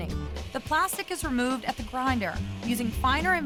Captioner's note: grinding sound